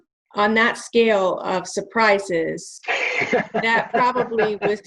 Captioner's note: laughing